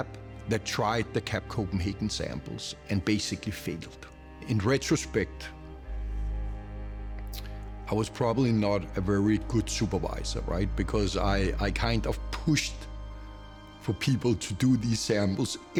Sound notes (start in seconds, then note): 7.0 clicks tongue